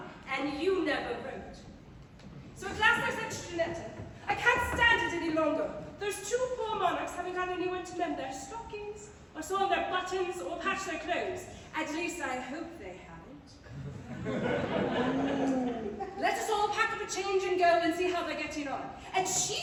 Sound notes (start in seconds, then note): 13.7 laughter